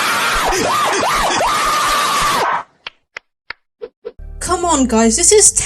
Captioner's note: sarcastic laughter